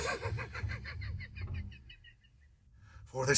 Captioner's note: uncontrollable giggling